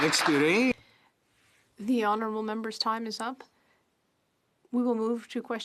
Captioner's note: applause